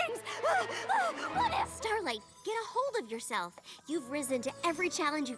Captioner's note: gasping